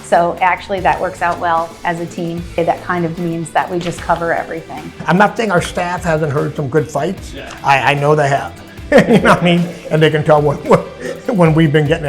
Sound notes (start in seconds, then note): 8.8 laugh